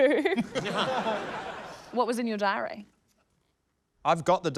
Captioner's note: laughs; laughter